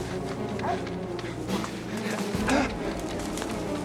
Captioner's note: grunting